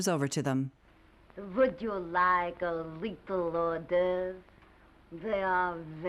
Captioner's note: foreign accent